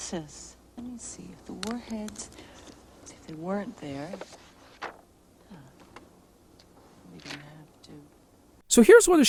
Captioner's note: whispers